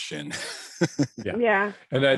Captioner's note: laughs